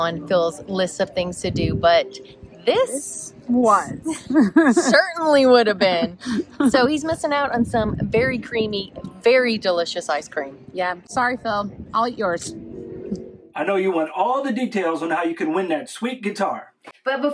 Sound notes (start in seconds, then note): 4.1 laughter